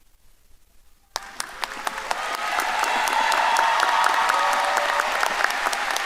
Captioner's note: audience applauding and cheering